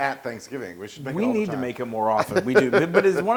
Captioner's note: laugh